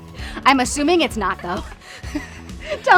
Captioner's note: laughs